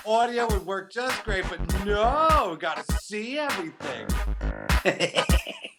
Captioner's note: laughs